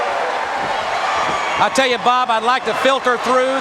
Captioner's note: crowd cheering